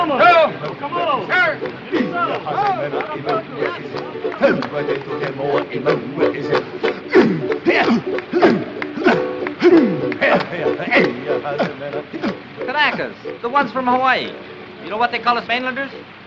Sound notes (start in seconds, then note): 2.1 ukulele playing; 5.7 clapping, singing in hawaiian; 8.2 grunting